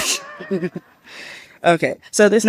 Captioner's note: laughing